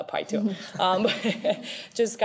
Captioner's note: laughter